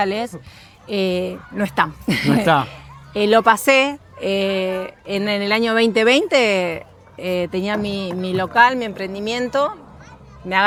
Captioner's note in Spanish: risas